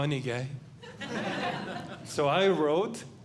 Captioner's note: audience Laughing